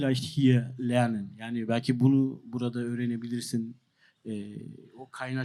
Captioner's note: speaks German